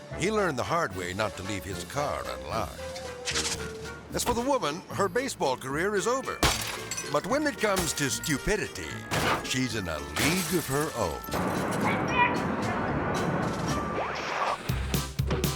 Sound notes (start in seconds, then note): 3.5 air swoosh; 6.3 glass shattering; 10.1 bat crashing; 13.9 screen static